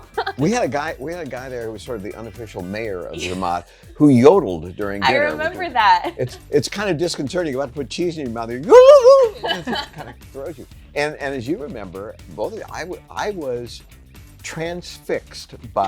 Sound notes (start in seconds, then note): 8.8 Maggie and Vanna laughing